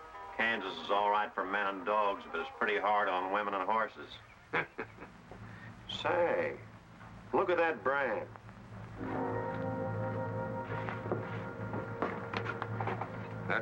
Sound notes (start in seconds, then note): 4.5 man chuckles; 8.6 ominous music